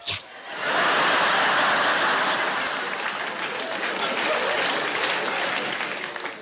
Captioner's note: audience laughing and applauding